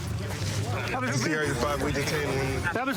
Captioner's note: excited chatter